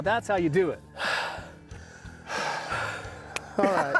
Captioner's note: huffing and puffing